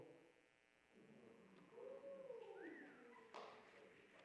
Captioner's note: man whistles